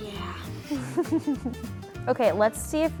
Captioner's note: interviewer laughs